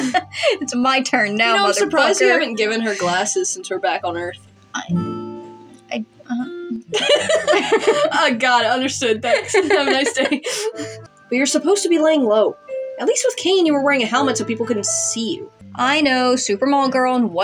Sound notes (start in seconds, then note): 0.0 snicker; 0.0 laugh; 4.7 mutters; 9.2 laugh